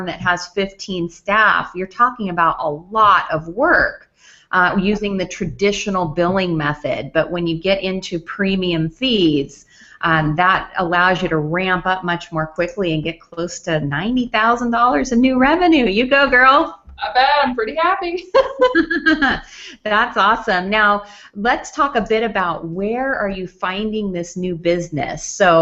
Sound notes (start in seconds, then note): 18.3 laughs